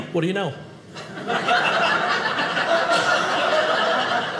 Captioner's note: audience laughing